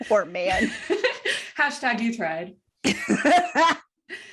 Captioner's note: laughter